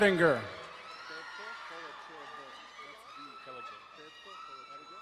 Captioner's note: crowd cheering and applauding